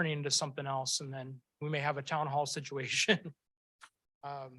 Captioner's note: chuckles